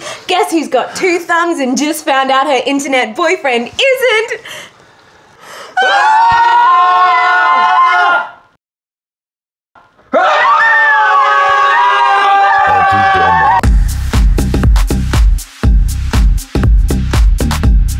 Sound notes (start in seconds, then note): 5.7 screams; 10.0 screams